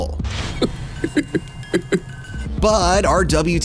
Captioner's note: woman laughing